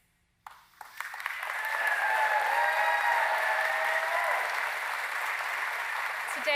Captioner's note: applause